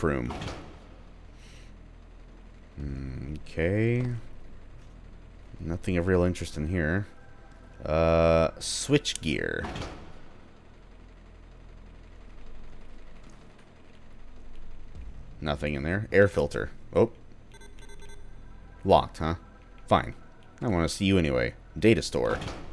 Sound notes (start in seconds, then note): 16.5 locked beeping noises